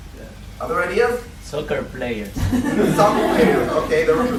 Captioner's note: laughter